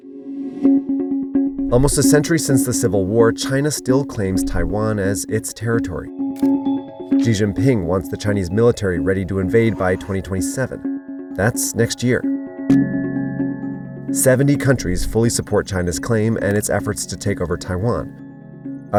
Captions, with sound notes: (eerie music) Almost a century since the Civil War, China still claims Taiwan as its territory. (camera clicks) Xi Jinping wants the Chinese military ready to invade by 2027. That's next year. (stars chiming) (eerie music) 70 countries fully support China's claim and its efforts to take over Taiwan.